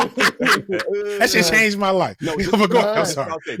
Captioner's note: laughing